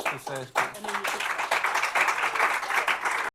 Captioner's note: applause